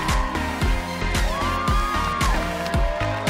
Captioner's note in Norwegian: jubel